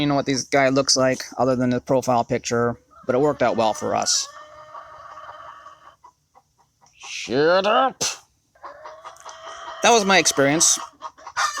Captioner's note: clucking